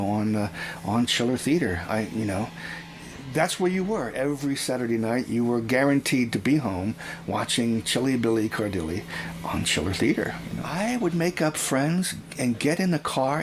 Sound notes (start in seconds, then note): none